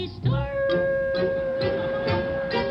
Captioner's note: audience laughs